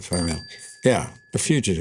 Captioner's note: bell dings